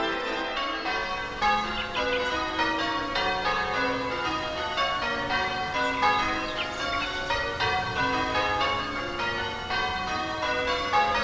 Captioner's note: church bells peal